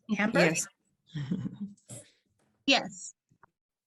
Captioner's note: laughs